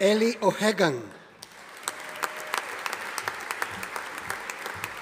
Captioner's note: audience applauding